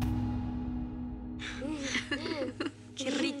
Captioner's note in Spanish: Risas